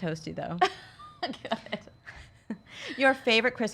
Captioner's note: laughs